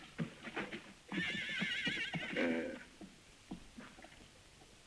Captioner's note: horse whinnies